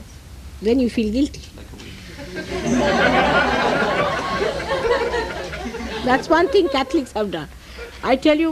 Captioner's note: everyone laughs